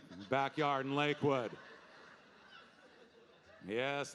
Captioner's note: audience laughing